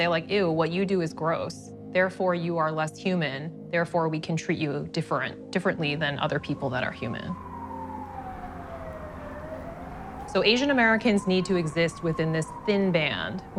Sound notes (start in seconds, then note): 7.8 sirens wailing